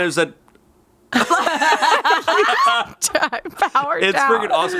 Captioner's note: everyone laughs